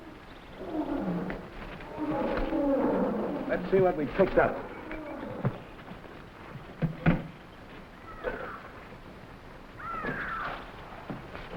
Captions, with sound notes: Let's see what we picked up. (gorillas groaning) (animals chattering)